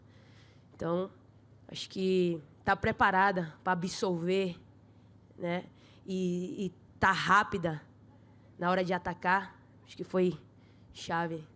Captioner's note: speaking foreign language